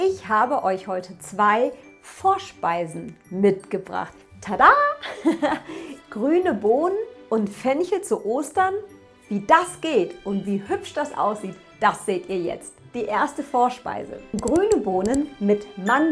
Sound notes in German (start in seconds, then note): 5.0 gelächter